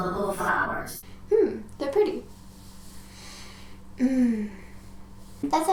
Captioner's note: sniff